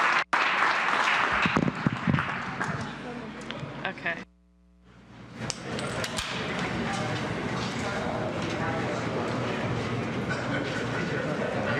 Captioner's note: applause